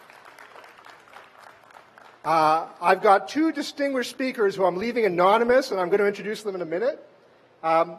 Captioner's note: applause